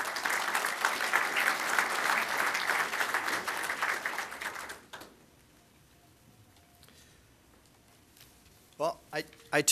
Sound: applause

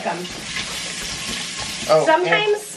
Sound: sizzling

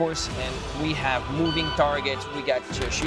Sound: electronic beep

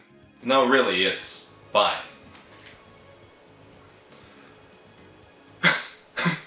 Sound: sobbing

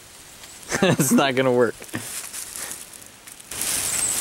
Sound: laughter

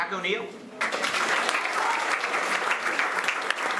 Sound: applause

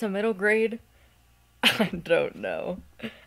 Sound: laughing

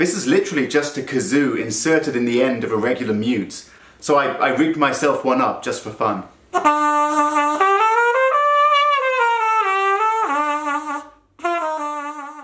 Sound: trumpet effect

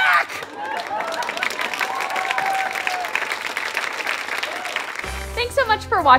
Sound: audience applause

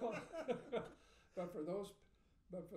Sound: laughing

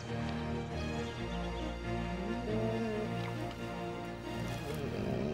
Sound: dog whining

